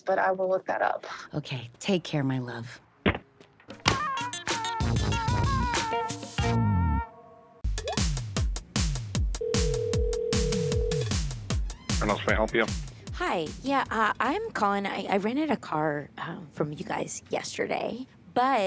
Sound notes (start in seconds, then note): 3.8 funky music; 7.6 upbeat music; 9.4 phone ringing